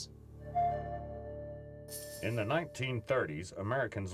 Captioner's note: rattle